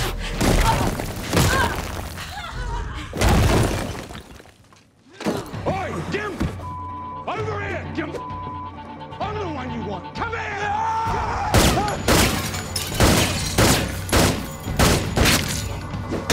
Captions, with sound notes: (Stormfront grunts) (Stormfront thuds) Hey, you (beep), over here. Come on, (beep), I'm the one you want. Come here! (guns banging)